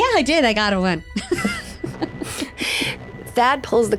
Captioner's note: laughing